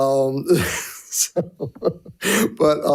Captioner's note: chuckles